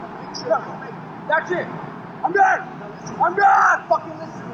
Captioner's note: noisy city